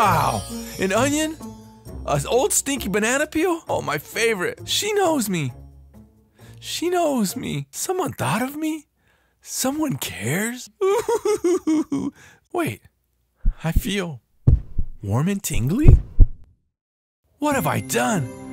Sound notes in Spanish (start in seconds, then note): 10.8 Los gruñones sollozan